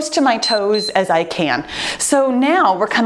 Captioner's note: timer beeps